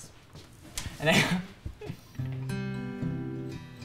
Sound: chuckles; guitar playing

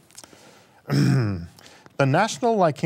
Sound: clears throat

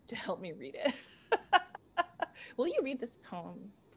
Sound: laughter

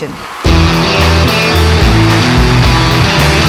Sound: all cheering, clapping

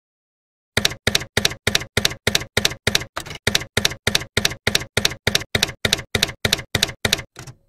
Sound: typewriter keys clacking

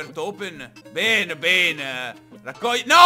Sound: german accent

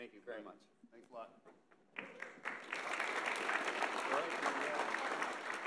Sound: audience applauding

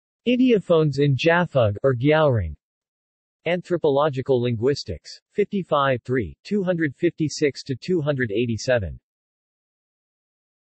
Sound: rgyalrong

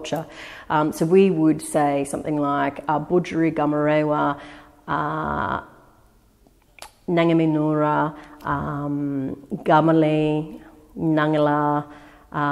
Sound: speaks in Gadigal

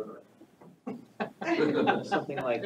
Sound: all laughing

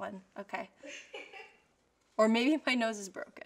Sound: offscreen laugh

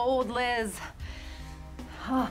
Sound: sighs

